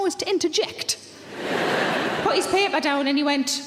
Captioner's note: audience laughs